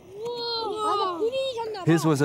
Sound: speaking foreign language

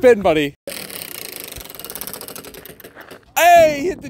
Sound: wheel whirring

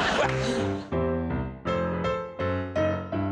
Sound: laughter

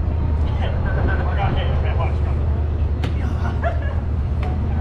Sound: people chattering

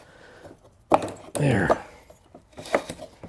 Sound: plastic piece pops

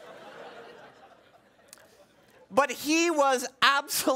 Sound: laughing

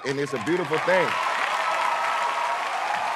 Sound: cheers and applause

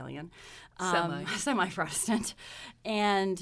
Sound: laughs

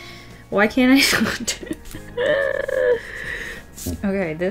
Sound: laughs

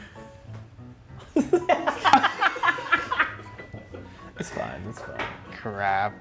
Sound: laugh

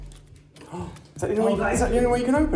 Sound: gasps

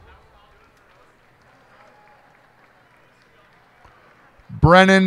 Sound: cheers and applause

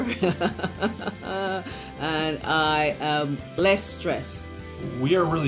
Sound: laughing

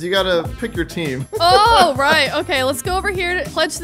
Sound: laughing amusingly

